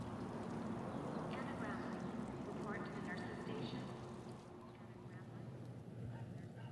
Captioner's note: voiceover